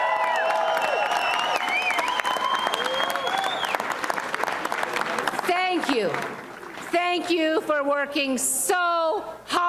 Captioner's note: applause and cheering